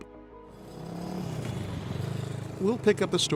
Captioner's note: engine rumbling